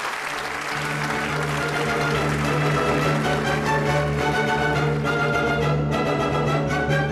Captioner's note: applause; music plays